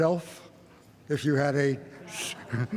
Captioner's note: laughs